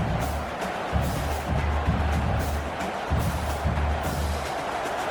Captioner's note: crowd Noises